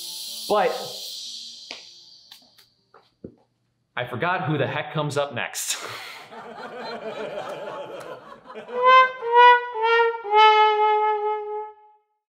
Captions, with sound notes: But... I forgot who the heck comes up next. [laughs uncontrollably] [sad air horn plays]